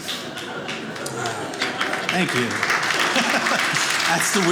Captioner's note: audience applauding